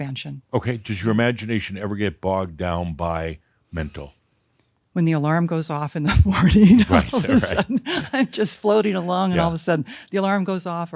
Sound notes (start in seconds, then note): 6.0 she laughs; 6.7 Adamus chuckles